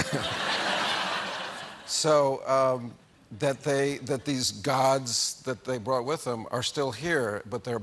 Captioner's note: laughter